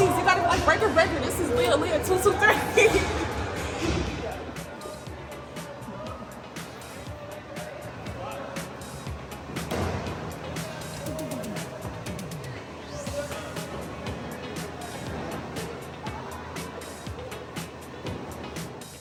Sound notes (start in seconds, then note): 2.1 laughing; 4.1 upbeat music; 12.5 ambient chatter